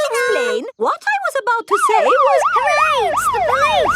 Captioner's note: siren wailing